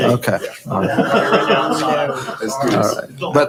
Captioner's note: laughing